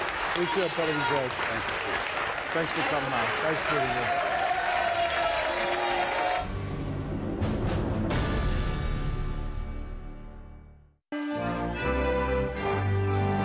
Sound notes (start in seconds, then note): 4.2 audience cheers and claps; 6.4 dramatic music; 11.1 orchestral music